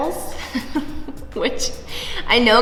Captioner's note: laughs